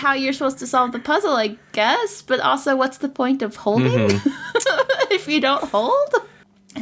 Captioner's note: laughs